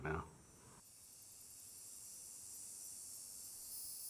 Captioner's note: cicadas